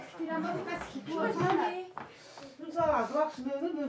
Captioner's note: background chatter